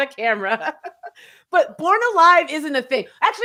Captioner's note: laughing